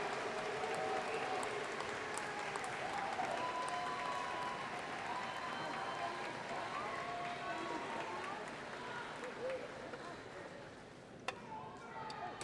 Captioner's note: applause